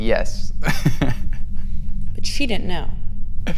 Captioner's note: laughs